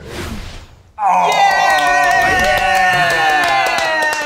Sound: cheering

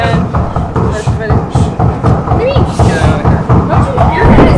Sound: knocking upstairs

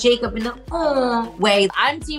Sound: mimics adoring sound

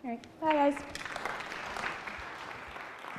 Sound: applause

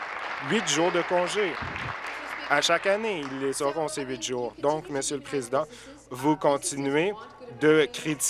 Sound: applause

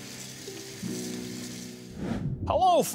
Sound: air whooshing

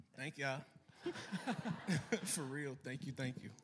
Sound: laughter

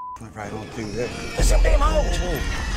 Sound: hogs squealing

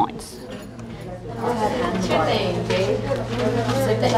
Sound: students chatting

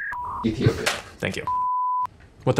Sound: crew members laugh

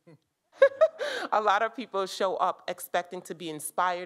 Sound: laughs

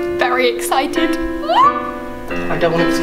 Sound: June squeals with excitement

